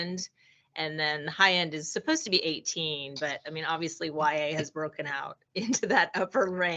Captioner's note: chuckling